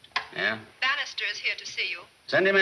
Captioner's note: woman On Intercom